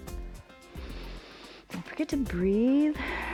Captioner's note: exhales; inhales